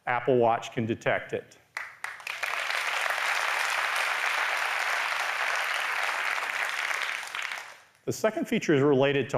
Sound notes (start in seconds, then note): 1.7 applause